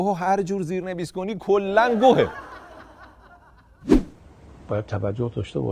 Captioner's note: laughter